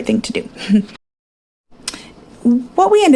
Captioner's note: giggles